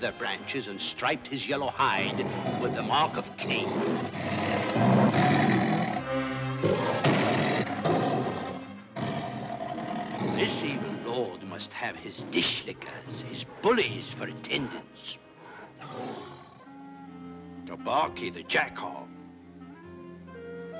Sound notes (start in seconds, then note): 4.1 dramatic music; 4.1 tiger growls